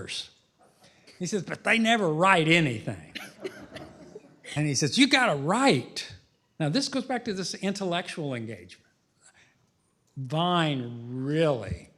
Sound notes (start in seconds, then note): 3.1 laughter